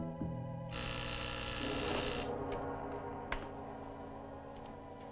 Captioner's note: door buzzing